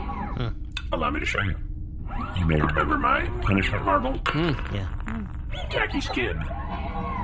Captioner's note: ejects marble